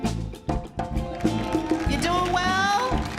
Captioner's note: audience cheers